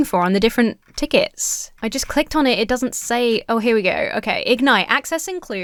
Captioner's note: none